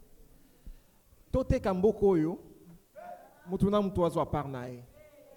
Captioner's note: speaks foreign language